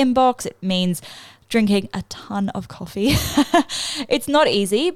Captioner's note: laughs